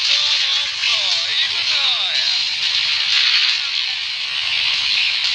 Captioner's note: clap